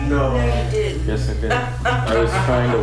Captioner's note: voiceover